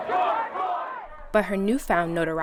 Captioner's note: marchers chanting